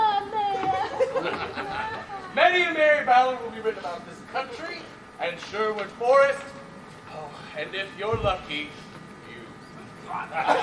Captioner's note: laughs; Will gags, others cheer